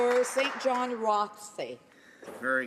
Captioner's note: applause